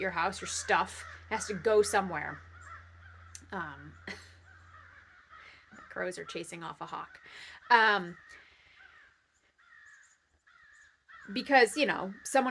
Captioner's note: lots of crows cawing